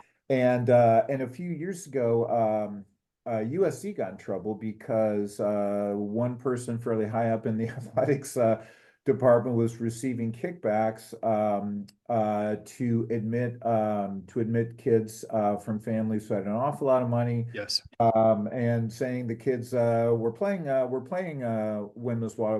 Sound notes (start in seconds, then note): 7.5 laugh